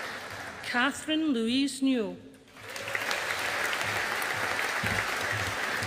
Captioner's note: audience applauding